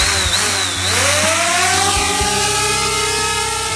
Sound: drone buzzing

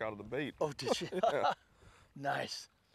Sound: laughter

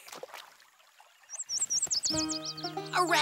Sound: birds chirp

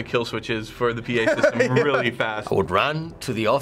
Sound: laughing

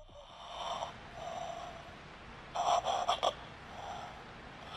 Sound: Lisa breathing heavily

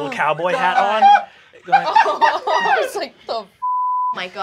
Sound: laughs; beep

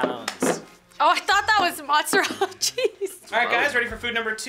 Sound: laughs

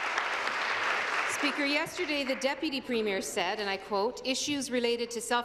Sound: applause

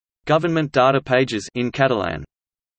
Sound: in Catalan

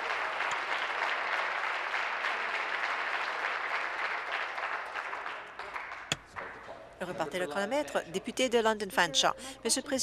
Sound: applause

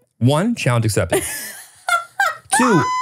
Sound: laughing

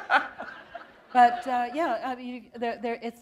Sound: laughter

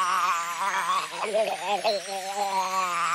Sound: barfing

